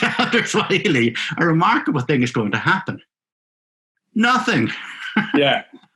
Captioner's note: laughing